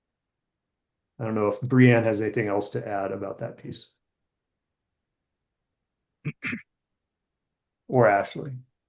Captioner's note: coughs